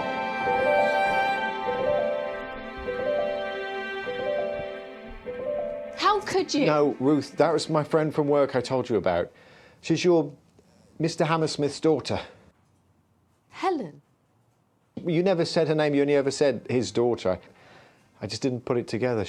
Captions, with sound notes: (Ruth sobbing) - How could you? No, Ruth, that was my friend from work I told you about. She's your, Mr. Hammersmith's daughter. - Helen? - Well you never said her name, you only ever said "his daughter". I just didn't put it together.